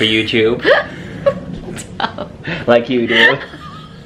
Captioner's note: laughs